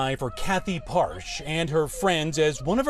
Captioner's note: crying